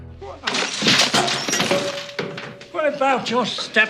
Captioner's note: crashing